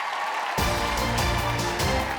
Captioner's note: clapping; dramatic music